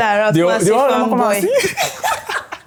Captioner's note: laughs